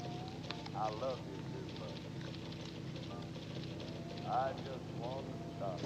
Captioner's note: computer bleeping, music in background